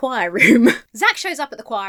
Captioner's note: chuckles